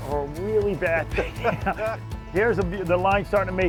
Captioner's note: the guys laugh